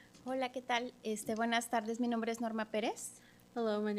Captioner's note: speaking Spanish